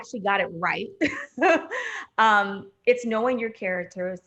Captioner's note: chuckling